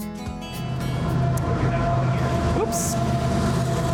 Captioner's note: train rushing